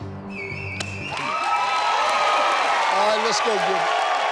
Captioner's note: audience cheers